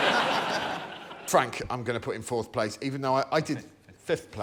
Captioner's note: laughter